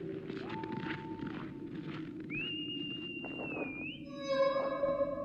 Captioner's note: howling and whistling continue